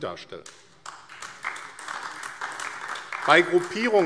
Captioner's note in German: Beifall AfD